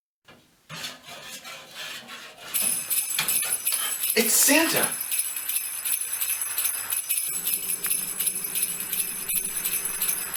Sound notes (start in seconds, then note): 2.6 sleigh bells ring; 5.8 ringing continues